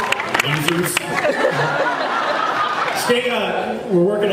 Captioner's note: laughs